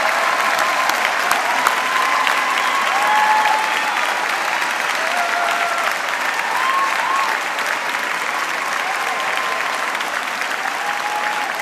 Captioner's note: cheering; applause